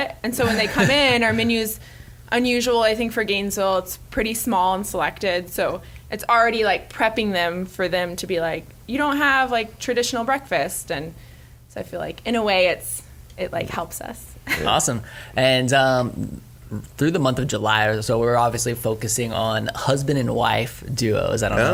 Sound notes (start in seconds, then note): 14.1 chuckles